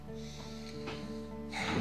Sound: Aleksandr sighs

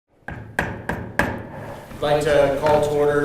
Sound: gavel

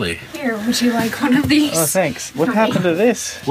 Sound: laughing

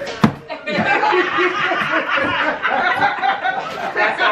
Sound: laughing

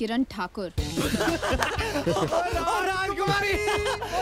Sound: laughing

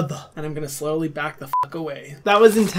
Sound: beep

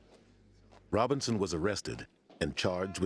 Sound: voiceover

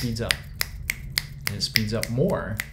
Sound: fingers snaps

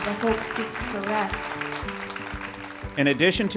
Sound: ^applause^

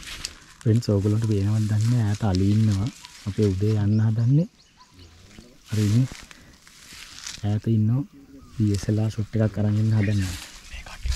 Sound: murmuring

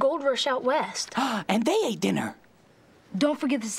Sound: gasp!

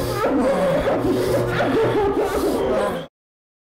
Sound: pants

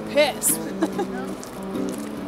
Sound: laughs

